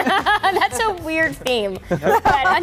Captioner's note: group laughs